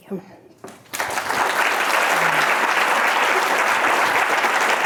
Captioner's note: audience applauding